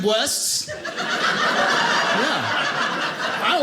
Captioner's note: audience laughing